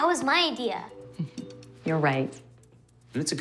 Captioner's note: chuckles